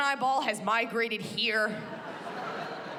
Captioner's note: laughter